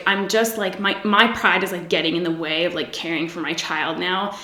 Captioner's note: none